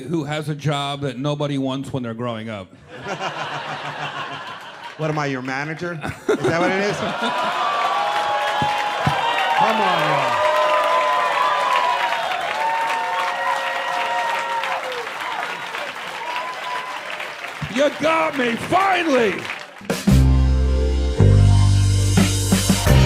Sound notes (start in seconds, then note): 2.8 people laughing; 7.7 audience reacting; 9.7 people cheering; 19.9 mellow music